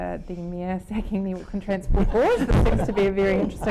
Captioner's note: laughing